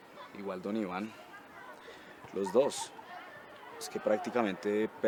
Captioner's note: none